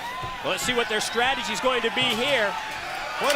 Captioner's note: crowd chatter